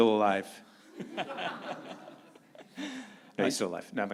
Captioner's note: audience laughing